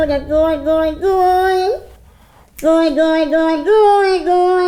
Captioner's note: makes silly sounds